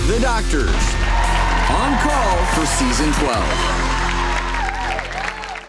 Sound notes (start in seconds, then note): 3.7 audience cheers